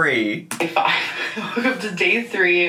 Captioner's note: laughs